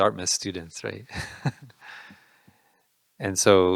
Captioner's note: laughing